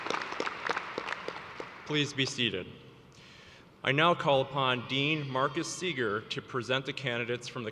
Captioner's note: applause